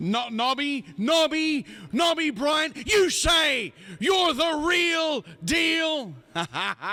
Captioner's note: laughs